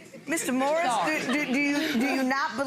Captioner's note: audience laughing